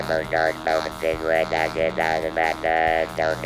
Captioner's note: with electronic voice